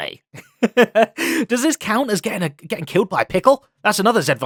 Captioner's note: laughs